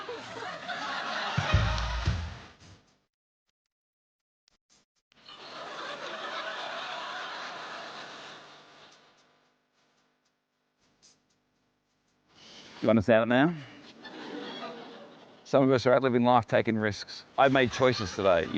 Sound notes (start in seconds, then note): 1.4 catwalk music plays; 13.8 laughter